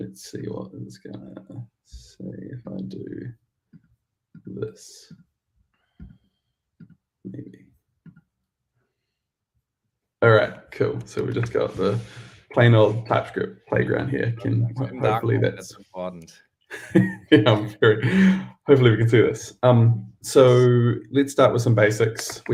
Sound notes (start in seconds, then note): 16.7 laughs